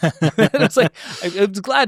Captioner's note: laughing